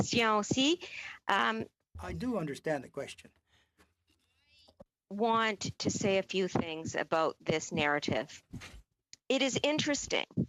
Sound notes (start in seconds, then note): 4.0 speaking French